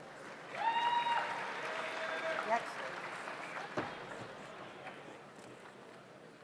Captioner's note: audience applauds; audience cheers